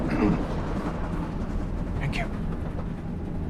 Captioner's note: train tracks rattling; throat clearing